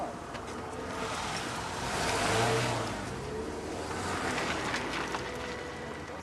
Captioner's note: tire screeches; engine revving